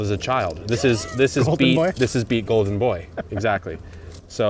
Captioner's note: laughs